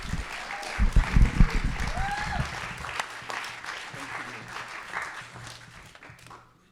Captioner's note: applause